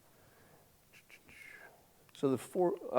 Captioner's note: Scott whistling